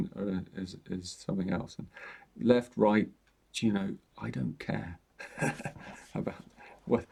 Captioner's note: chuckles